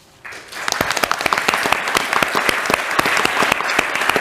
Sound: audience applauding

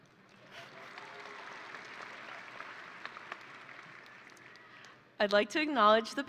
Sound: audience and graduates applauding

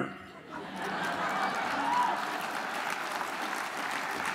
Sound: audience laughs

